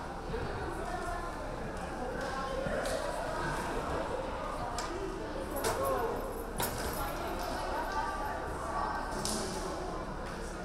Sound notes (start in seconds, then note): none